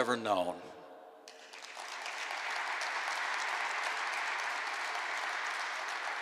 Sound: applause

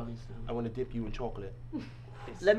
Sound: chuckles

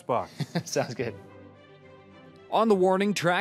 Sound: laughing

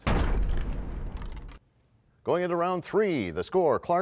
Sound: crashing sound

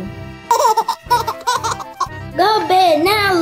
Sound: laughter

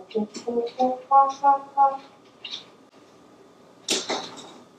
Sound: makes the monkey sound

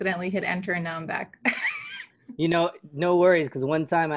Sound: laughter

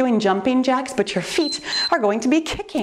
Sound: timer beeps

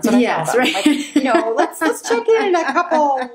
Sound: laughs

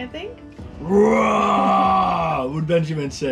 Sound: roars

